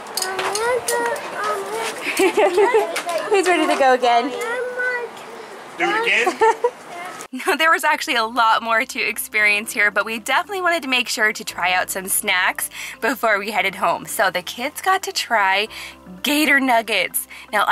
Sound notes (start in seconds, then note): 1.4 laughing; 6.1 male Voice